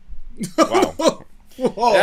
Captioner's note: laughter